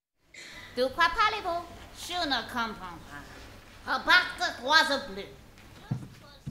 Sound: speaking in french

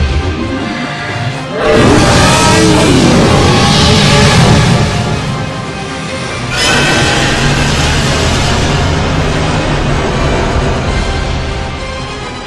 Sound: roaring

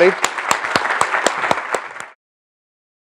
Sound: applause

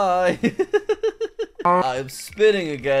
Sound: laughs

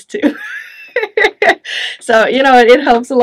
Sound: chuckles

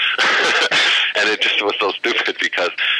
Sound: laughter

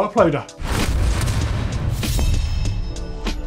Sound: slamming

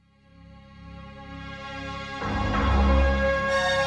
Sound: none

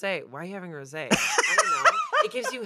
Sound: laughs

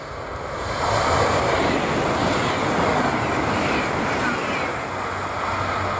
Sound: Italo high speed train transit noise

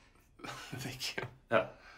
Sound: laughs

